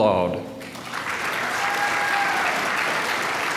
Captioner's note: applause